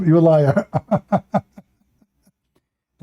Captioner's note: Ketawa